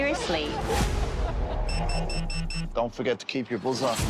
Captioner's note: all laughing; beeping